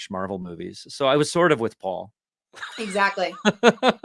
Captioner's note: laughs